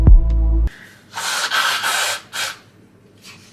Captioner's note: sounds of sickness / blowing my nose